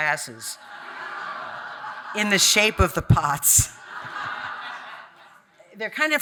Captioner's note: audience laughing